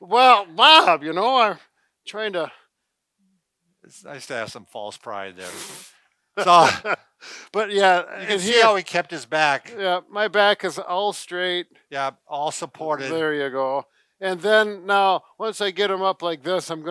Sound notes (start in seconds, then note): 6.4 laughing